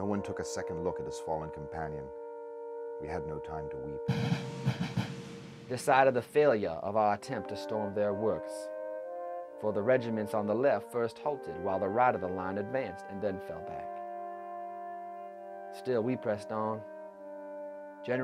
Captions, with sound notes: No one took a second look at his fallen companion. We had no time to weep. (drumming) - [Voiceover] The sight of the failure of our attempt to storm their works, for the regiments on the left first halted while the right of the line advanced, and then fell back. Still we pressed on.